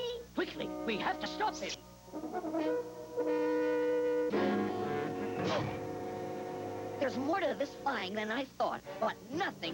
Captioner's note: thud